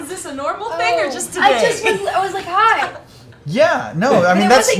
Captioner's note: sniffs